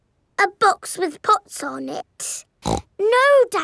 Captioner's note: snorts